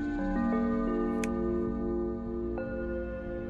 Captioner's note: lens clicks; eerie music